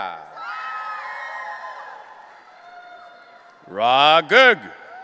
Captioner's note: audience cheering